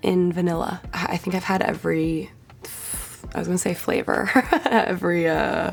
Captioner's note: laughs